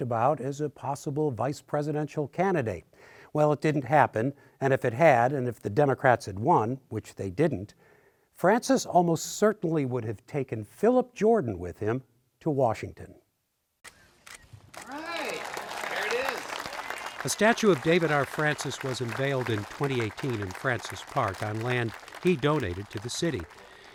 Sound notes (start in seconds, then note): 14.2 camera shutter clicking; 16.1 cheers and applause